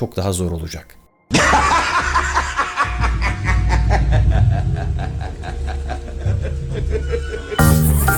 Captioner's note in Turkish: gülme sesi